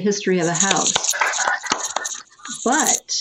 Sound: clapping

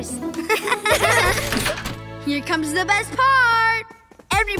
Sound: laughing

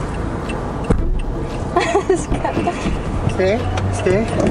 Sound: laughter

